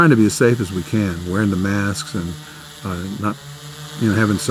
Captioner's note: buzzing